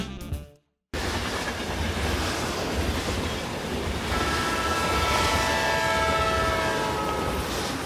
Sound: train steaming

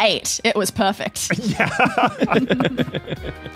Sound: group laughing

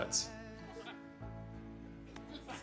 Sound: man laughs

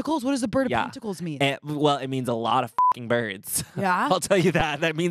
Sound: beep

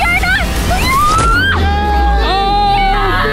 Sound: yelling; screams

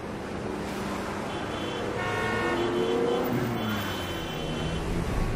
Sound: horns honking

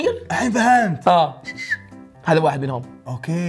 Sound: whistles

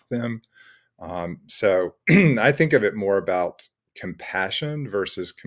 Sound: clears throat

